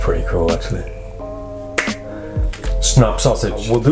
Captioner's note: snaps